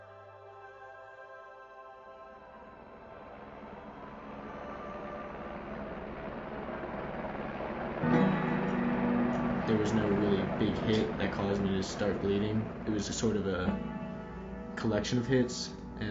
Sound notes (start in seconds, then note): 0.2 soft choral music; 5.0 helicopter rotors whirring